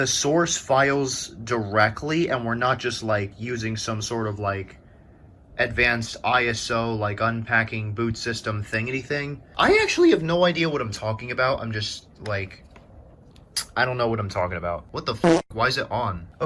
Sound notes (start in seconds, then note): 13.5 tch; 15.2 fart